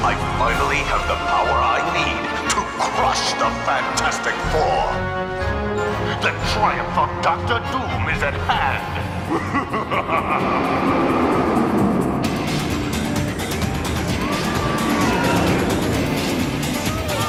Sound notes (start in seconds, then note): 8.2 laughing; 11.9 upbeat music; 13.9 ride whooshing; 14.1 riders screaming; 17.0 kids chattering